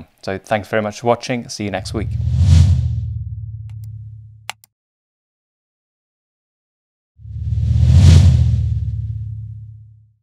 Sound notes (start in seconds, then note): 1.8 button whooshing; 4.4 cursor clicking